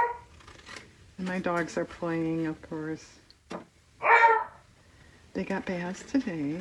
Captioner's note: dog barks